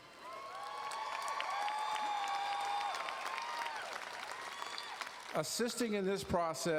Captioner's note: audience cheering and applauding